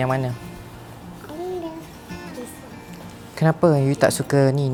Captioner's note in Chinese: 英语